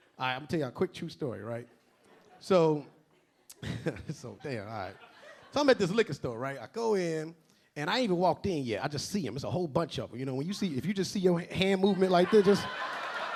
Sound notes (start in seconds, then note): 3.6 LilRel chuckling; 5.4 a few audience members laughing